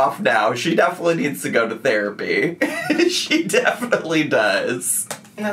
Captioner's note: laughs